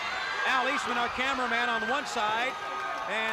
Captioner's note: crowd cheering